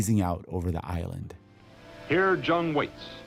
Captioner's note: soundbite of archived recording